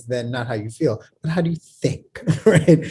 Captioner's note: laughs